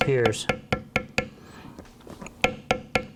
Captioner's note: tapping